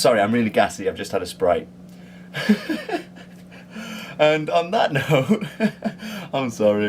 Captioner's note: laughs